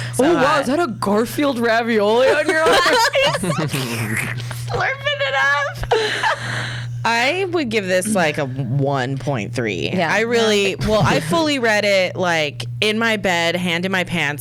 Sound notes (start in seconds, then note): 2.2 laughs; 3.7 slurping sound